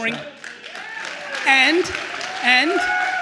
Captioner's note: attendees cheering and applauding